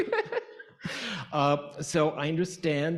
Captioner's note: both laughing